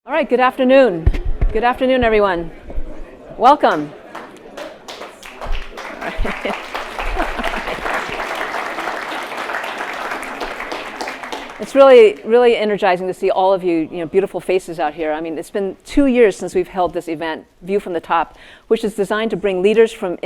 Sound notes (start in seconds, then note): 3.6 attendees applauding